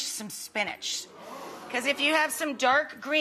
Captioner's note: crowd murmuring